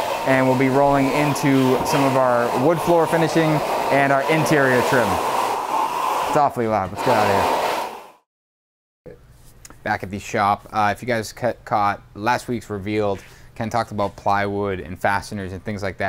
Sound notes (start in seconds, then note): 5.2 loud scarping